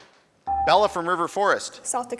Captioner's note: buzzer dings